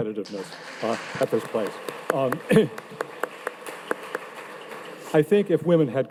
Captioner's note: audience applauding